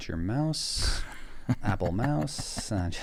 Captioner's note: laughing